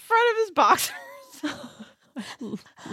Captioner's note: laughs